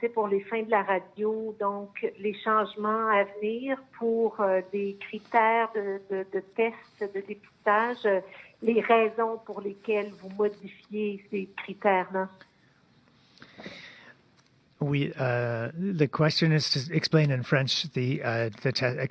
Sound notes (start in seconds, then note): 5.8 speaking in French